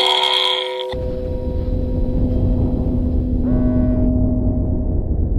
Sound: air rumbles softly

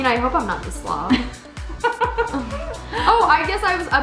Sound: laughs

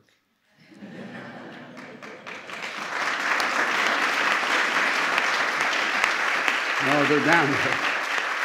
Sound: laughter and applause

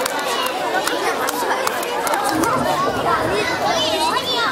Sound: crowd talking

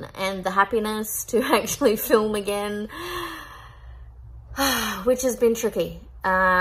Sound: heavy sigh

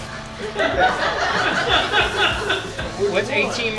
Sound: people laugh heartily

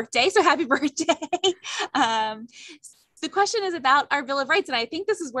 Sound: laughter

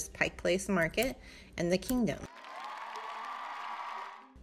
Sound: crowd cheering

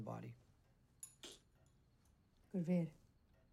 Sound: cutting sound

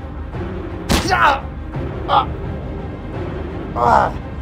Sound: Darius grunting in pain

